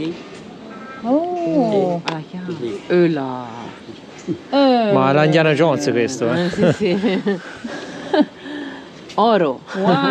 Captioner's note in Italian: risate